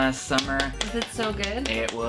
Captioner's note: applauds